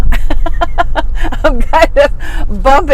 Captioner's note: chuckles